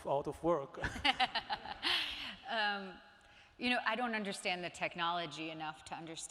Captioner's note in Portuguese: laughs